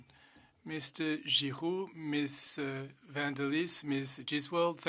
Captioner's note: speaking French